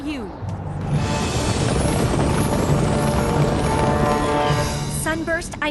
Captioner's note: galloping hooves